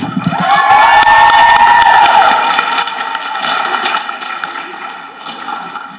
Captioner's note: people applauding and cheering